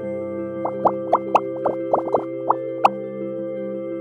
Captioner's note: bubbles popping